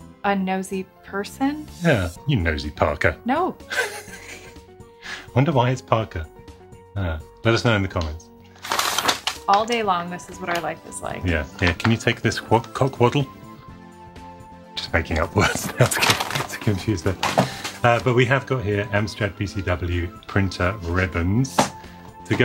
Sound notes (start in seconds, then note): 3.7 laughs; 8.6 paper tearing